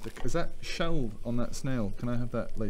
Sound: none

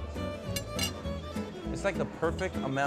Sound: cutler clattering

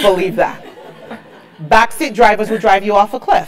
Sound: laugh

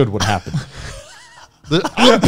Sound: laughing

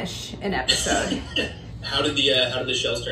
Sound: softly laughing

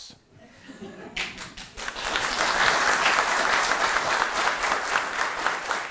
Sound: applause

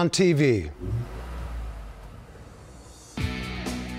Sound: motor revving; rock music intro

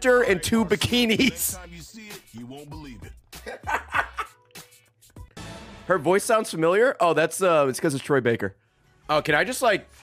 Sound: laughs

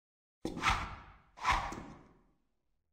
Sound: swoosh-swoosh; utter silence

